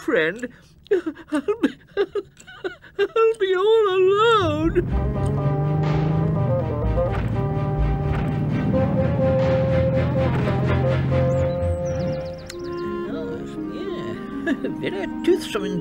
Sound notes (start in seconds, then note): 0.8 sobbing